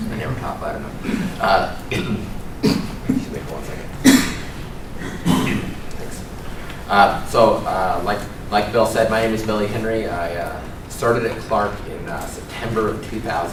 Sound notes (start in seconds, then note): 1.8 cough